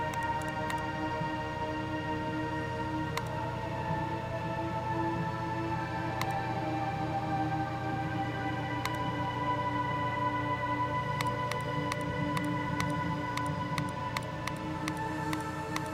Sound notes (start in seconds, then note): 6.7 mouse clicks; 11.1 mouse clicks repeatedly